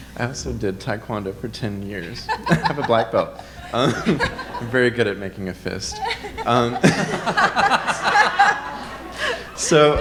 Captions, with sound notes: - I also did Taekwondo for 10 years. I have a black belt. I'm very good at making a fist. (all laughing)